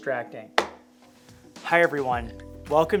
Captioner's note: phone clacking